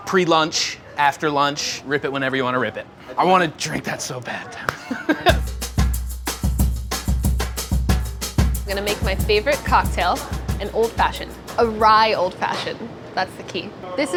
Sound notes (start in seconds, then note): 4.6 laughs; 4.7 percussion music